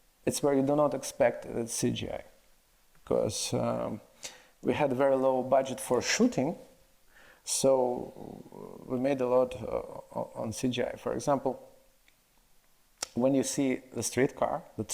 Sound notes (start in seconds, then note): none